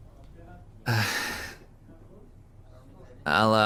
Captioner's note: sighs